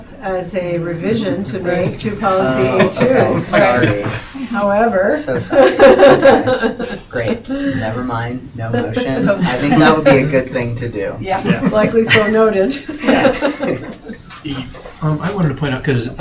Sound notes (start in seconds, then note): 5.3 laughing